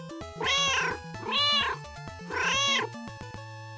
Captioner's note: meow, meow!